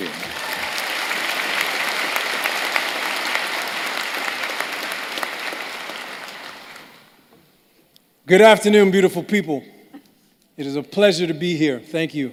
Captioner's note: applause